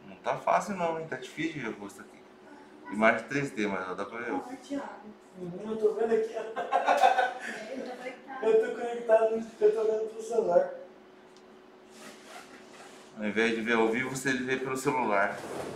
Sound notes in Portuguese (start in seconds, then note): 6.3 risos